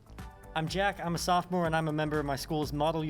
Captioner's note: none